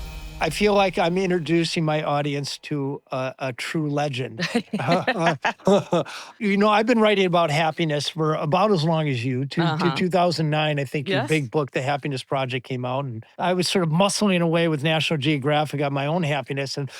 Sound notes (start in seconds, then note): 4.4 laughs